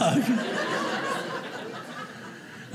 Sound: audience laughing

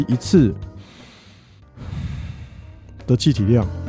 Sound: breathing

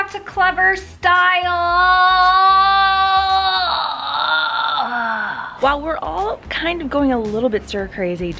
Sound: none

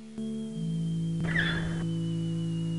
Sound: doors creak

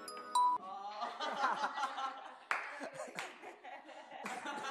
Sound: laughing

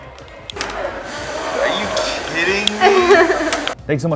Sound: woman laughing

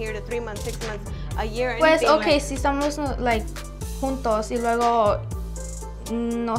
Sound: speaks in foreign language

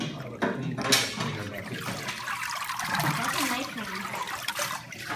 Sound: sound: water dripping off deckle

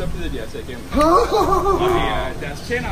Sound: panic noises

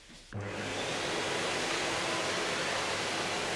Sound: vacuum starts

